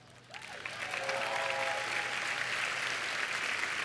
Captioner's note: cheers and applause